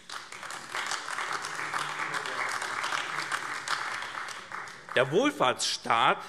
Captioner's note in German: Beifall AfD